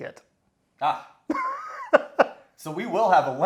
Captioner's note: laughs